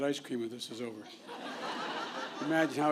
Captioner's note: laughter